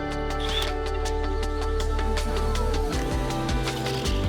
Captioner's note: drill whirring